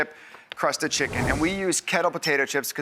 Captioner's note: whooshing